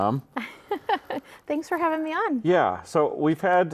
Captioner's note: laughs